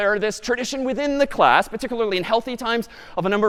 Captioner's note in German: none